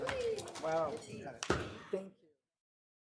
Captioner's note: distant chatter